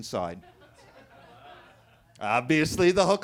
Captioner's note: attendees laughing